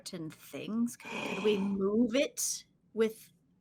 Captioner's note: gasps